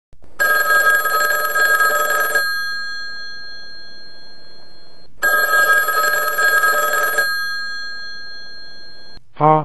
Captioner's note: ring bell